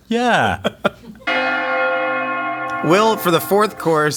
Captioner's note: bells chiming